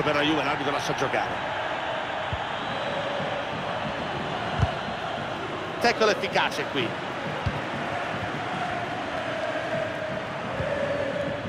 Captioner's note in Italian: Applauso